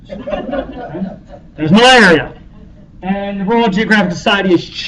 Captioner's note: laughter